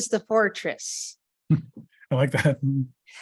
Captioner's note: chuckling